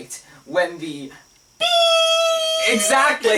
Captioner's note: makes bleeping noise